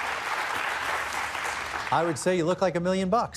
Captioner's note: cheers and applause